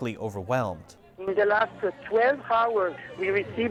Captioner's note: phone dialogue